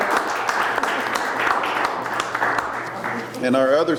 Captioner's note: people clapping